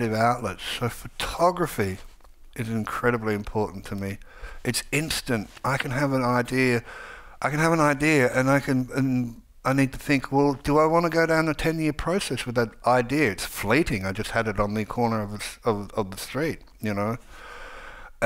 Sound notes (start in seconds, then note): none